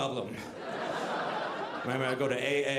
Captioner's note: audience laughing